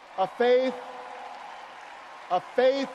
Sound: audience cheers and applauds

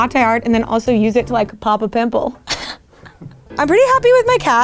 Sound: laughing

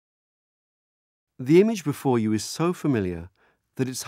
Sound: voiceover

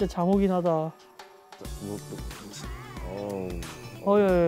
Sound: snoring

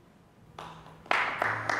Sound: applause

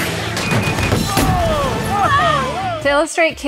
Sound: microwave explodes

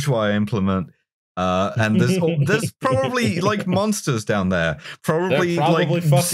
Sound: chuckles

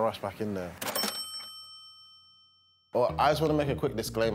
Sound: cash register dings

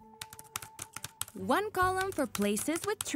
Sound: keyboard clacking

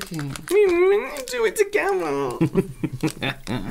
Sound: whiny Voice

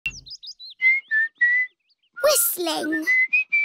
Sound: whistling

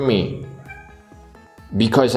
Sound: cat mews

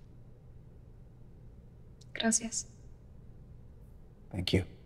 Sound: Spanish

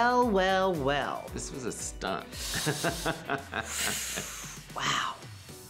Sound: laughing

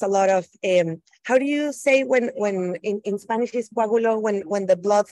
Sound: speaking Spanish

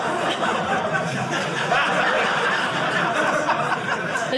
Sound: audience laughing

